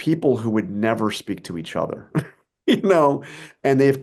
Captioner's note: chuckles